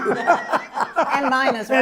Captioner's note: laughter